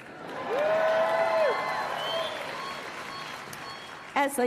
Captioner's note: applause